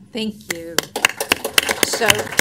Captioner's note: applause